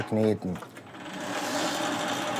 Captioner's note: loud machine rattling